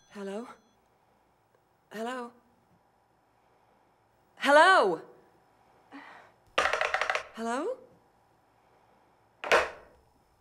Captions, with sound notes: Hello? Hello? Hello? ( Sighs ) Hello?